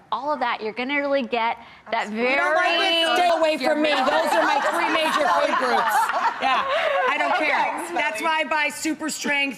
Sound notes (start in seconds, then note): 5.9 audience and panel laughs